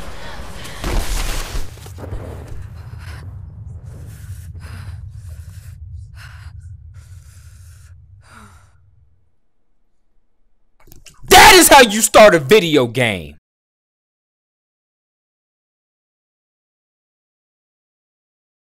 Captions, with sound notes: (heavy breathing) That is how you start a video game!